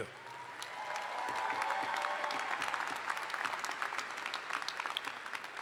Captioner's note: audience cheers and applauds